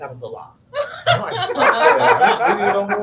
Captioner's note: laughs